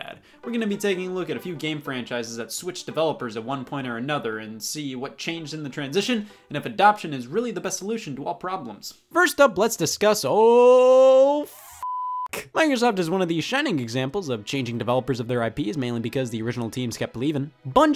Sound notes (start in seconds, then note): 11.8 beep